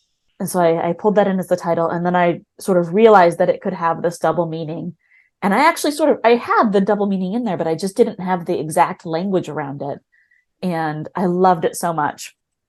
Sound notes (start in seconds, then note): none